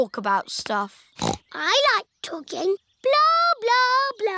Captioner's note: snorts